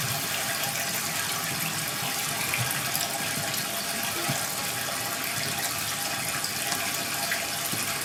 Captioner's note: water trickling continues